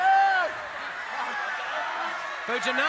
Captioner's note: audience chattering